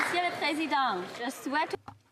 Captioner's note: applause